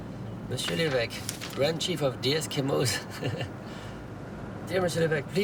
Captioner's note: laughs